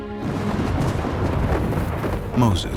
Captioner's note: thunder crashes